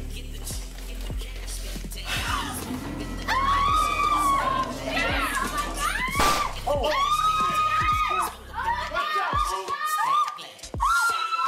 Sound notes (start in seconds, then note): 2.1 all screaming; 6.2 gun fires; 8.2 all screaming